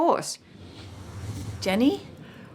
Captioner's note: whooshing